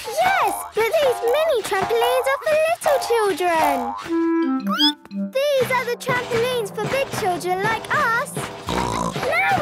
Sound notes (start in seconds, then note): 4.4 squeaks; 8.6 snorts